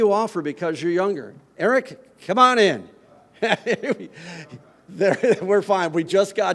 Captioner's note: laughs